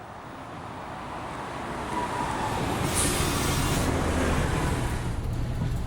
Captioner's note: bus brake noises